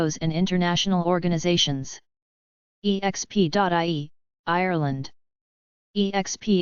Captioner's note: german language